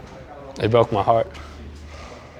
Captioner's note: breathing deeply